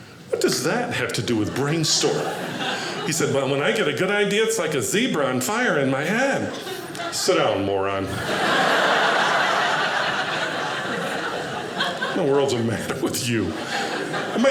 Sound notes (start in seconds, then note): 8.0 audience laughing